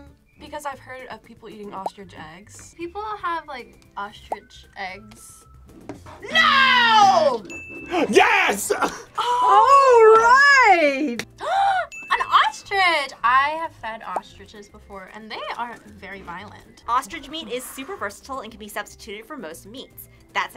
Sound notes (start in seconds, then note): 6.8 buzzer rings; 7.3 bell rings; 11.4 gasps